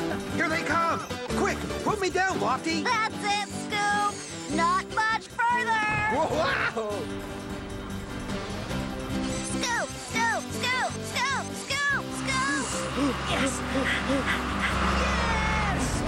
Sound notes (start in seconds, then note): 5.7 Bob hoots